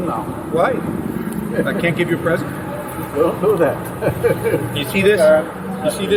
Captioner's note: laughs